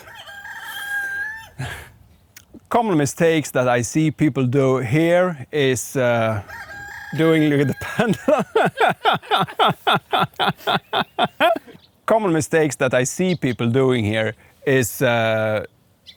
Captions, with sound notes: [rooster crows] Common mistakes that I see people do here is [rooster crows] doing the... [laughing] Common mistakes that I see people doing here is